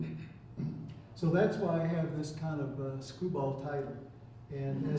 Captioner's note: chuckling